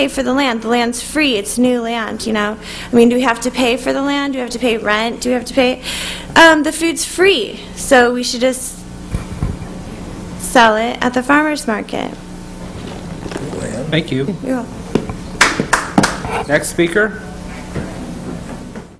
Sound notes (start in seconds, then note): 15.4 three claps